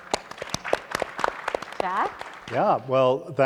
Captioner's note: audience and panelists applauding